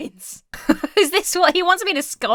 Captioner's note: laughs